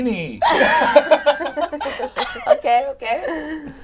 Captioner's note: all laugh